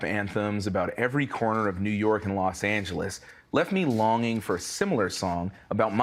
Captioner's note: rustling